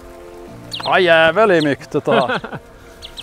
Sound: giggle

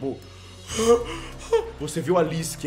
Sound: gasping

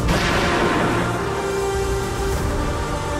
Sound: gun shoots

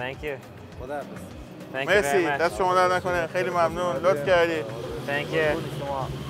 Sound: speaks in a foreign language

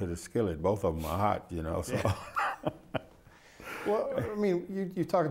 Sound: laughs

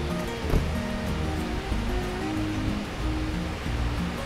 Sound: feet thud

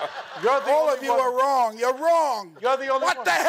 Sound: laughing

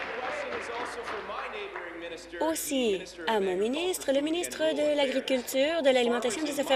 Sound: cheers; applause

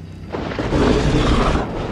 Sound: thunder Sounds

